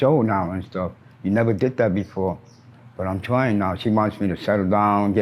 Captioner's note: birds chirp